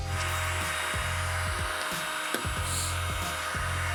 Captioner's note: heat gun